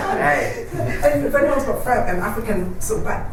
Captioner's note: laughter